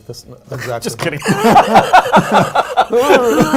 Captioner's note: laughing